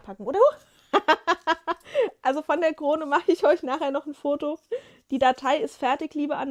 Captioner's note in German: gelächter